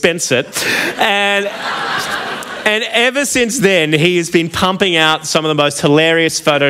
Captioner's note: laughter